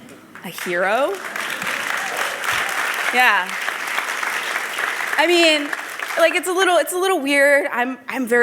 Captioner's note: applause